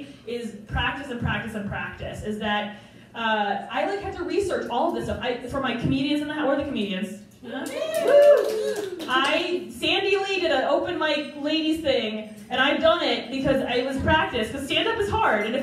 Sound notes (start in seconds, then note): 7.6 crowd Cheers